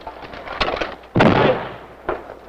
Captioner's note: explosion